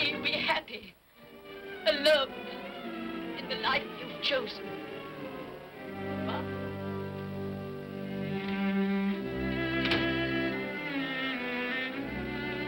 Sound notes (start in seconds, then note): 7.7 sentimental music; 9.6 door closes; 11.0 sentimental music